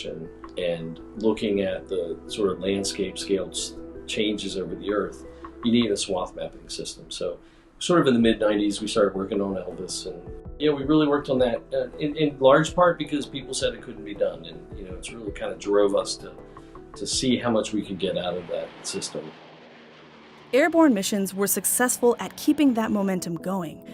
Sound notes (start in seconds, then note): 18.6 airplane engine sound